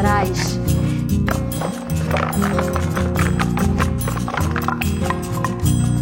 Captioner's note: sound of wooden blocks spreading on the floor